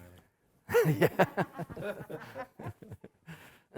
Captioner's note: emcee laughing